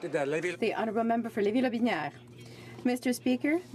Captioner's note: speaking French